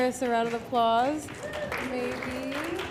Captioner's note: applause